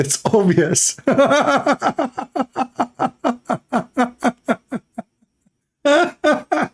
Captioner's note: Ketawa